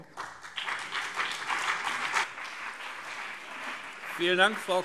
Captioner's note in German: Beifall BÜNDNIS 90/DIE GRÜNEN und CDU